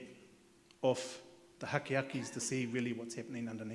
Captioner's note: speaks in Maori